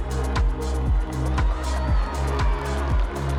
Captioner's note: cheering, applause